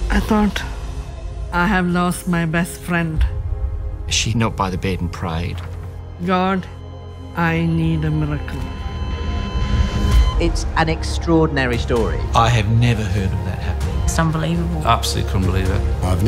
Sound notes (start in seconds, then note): 7.9 cardiac monitor beeping